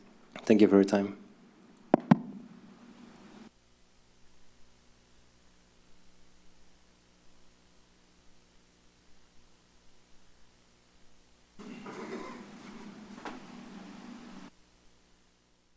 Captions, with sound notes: Thank you for your time. [silence]